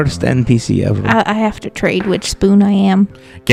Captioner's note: die rolls